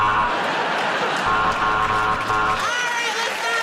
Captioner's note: buzzer